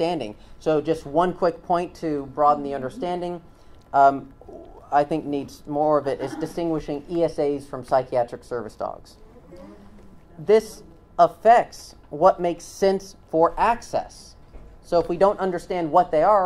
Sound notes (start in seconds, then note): 9.2 "Mmm-hmm"s from audience